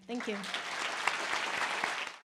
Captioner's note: audience applause